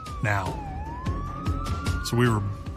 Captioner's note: sirens wailing